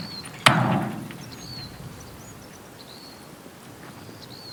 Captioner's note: brake clanking; door slamming